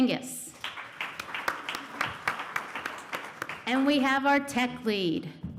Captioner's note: applause